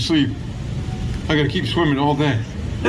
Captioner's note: laughing